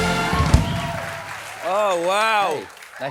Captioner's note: cheers and applause